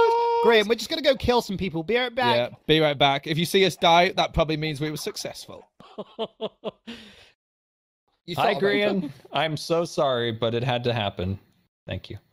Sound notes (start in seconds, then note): 5.8 jimmy laughing